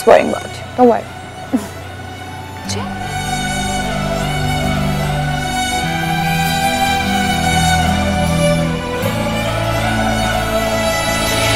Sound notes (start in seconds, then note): 1.5 Falguni laughs